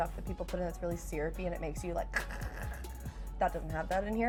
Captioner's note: choking